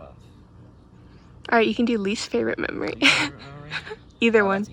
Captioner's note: laughs